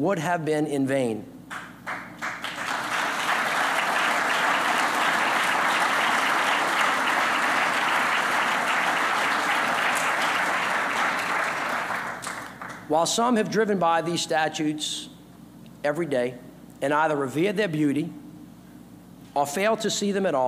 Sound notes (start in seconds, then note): 9.2 applause